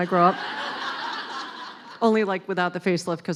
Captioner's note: laughing